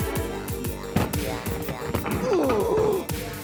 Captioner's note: iron thudding; upbeat music; iron thudding; upbeat music